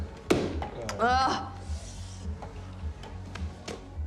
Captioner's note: groans